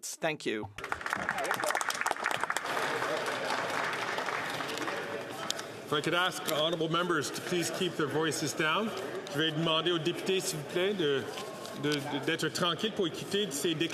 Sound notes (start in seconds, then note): 4.9 some Applause